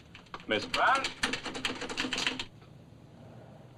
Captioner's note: typewriter chattering